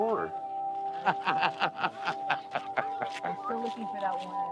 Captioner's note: laughing